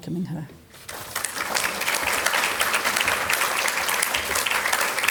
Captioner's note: audience applauding